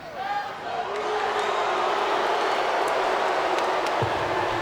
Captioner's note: audience jeers